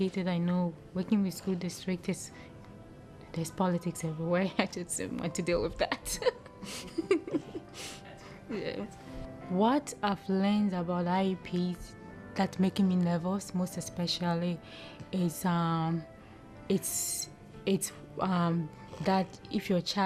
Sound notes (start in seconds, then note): 6.0 laughter